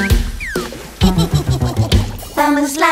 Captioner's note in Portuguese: Música Alegre; Risos